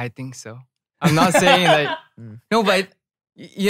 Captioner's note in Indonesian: tertawa